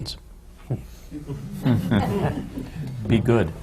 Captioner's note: laughter